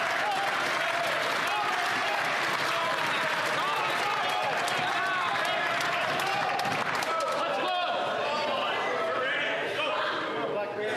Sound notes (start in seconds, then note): 0.0 some Applause